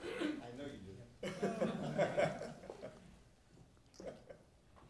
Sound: laughing

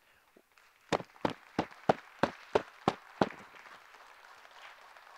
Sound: group applauding

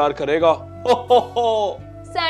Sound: Santa laughing

